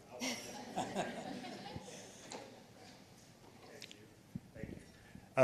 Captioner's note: participants laughing